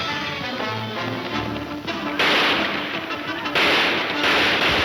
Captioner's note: gunshots banging